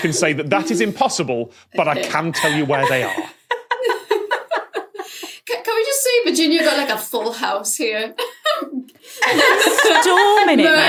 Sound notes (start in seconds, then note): 3.5 giggle; 9.0 laugh